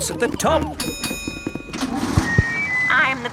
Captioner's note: bell dings